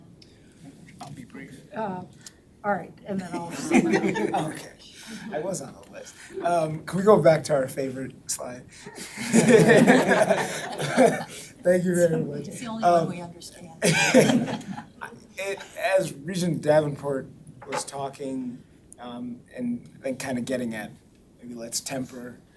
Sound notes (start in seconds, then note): 3.3 all laughing; 13.8 all laughing